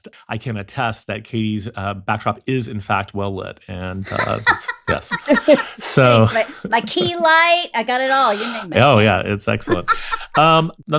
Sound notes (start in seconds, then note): 4.0 both laughing